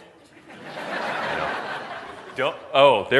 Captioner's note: laughs